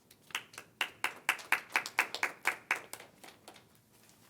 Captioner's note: crowd applauding